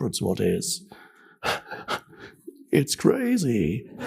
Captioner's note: laughs